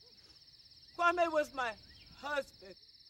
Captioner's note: none